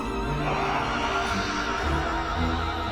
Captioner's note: grunts